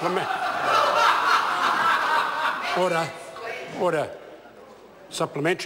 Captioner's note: members laugh